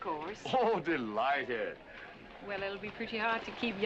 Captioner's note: laughing